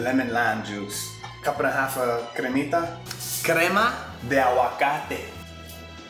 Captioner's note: speaking in Spanish